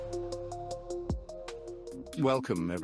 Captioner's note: narrator over music